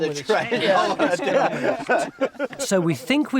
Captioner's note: group laughs